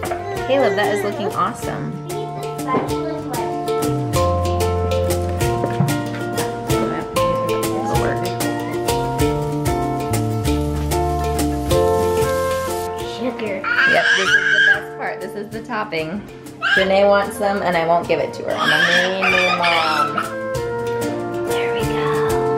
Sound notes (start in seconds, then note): 18.6 screeches